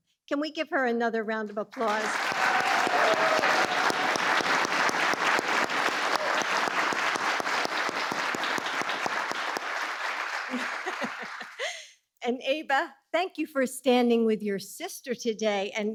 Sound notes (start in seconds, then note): 3.6 applause